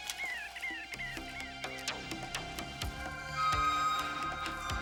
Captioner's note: birds chirping